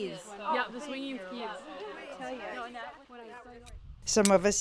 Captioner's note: women chattering